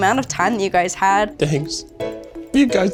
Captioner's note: in puppet voice